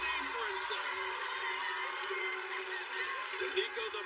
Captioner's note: cheers and applause